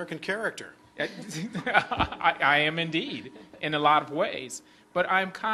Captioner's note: laughs